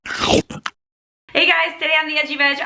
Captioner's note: mouth chomping